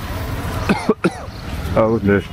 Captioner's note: cough